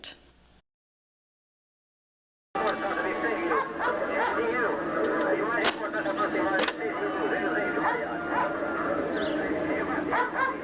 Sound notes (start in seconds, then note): 3.5 voice on radio; 7.1 dog barking